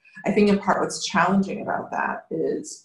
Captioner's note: none